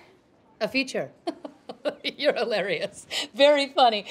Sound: laughs

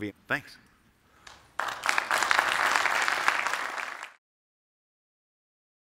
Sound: applause

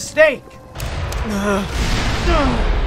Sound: explosion; distant explosion

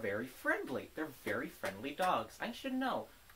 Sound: clap

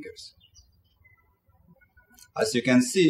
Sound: birds chirping

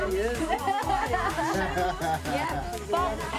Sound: laughs; man chuckles

